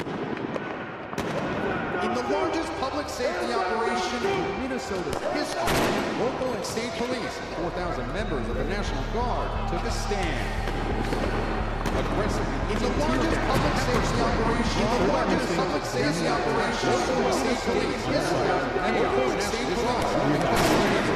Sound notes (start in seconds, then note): 0.0 gun shooting noises, shouting; 5.6 bang